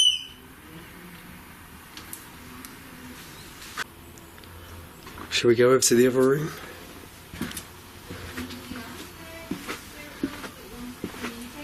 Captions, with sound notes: (beep) - Should we go up to the other room? (footsteps)